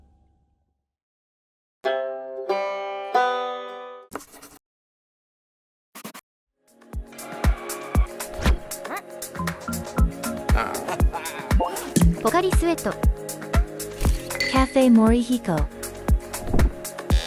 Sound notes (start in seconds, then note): 7.5 cry; 11.0 harrghAAhaaah